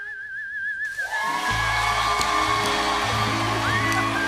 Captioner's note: cheers and applause